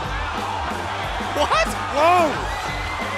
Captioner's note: cheers & applause